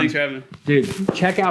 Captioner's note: hands clapping